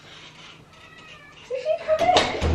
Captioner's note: cat meowing